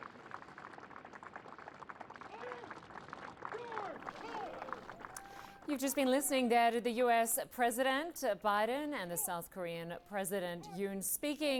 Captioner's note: applause